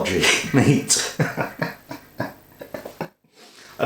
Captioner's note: laughs